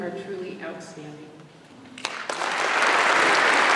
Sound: applause

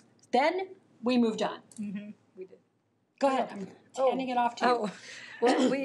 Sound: coughs throat

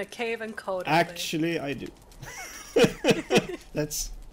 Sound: laughs

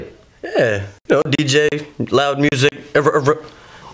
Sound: scratching sound

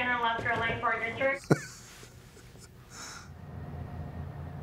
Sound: laughs

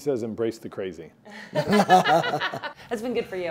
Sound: all laugh

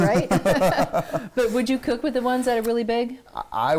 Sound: laughing

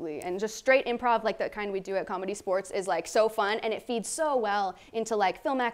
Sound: none

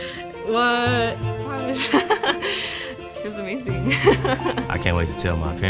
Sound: laughs

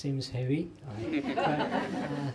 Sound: laughter

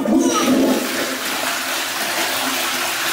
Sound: toilet flushing

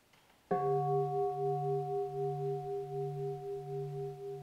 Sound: bell rings

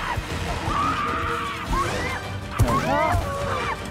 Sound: screaming; whimpering

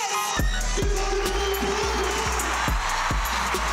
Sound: crowd cheering

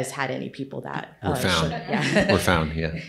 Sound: group laughs

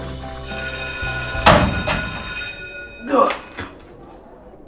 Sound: bell ringing

